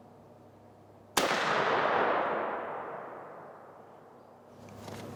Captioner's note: gun firing